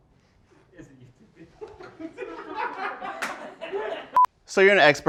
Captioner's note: laughter